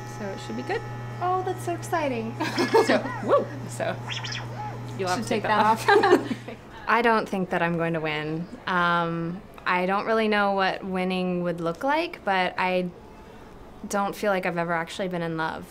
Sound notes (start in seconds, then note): 2.4 giggles